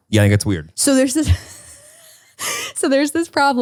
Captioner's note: laughs